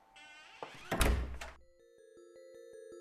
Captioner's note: creaking; clicking